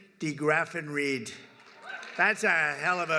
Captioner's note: applause